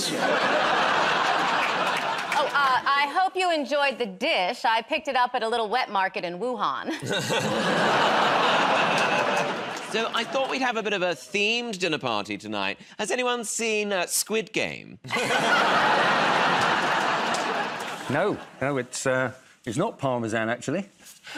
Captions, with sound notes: [ Laughter ] -Oh, I hope you enjoyed the dish. I picked it up at a little wet market in Wuhan. [ Audience groans ] -So I thought we'd have a bit of a themed dinner party tonight. Has anyone seen "Squid Game"? [ Laughter ] -No, no, it is not Parmesan, actually.